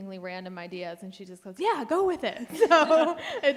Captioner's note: panelists laugh